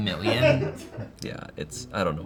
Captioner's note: crew laughs